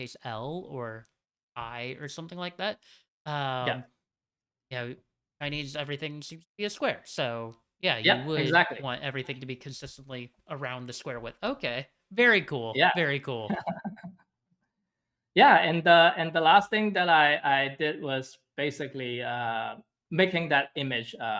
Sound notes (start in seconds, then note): 13.5 chuckles